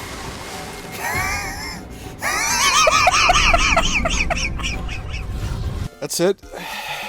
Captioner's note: wheezing hysterical laughter